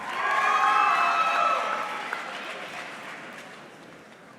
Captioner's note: audience cheering